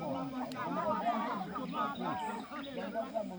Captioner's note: birds chirping